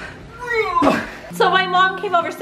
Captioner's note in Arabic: همهمات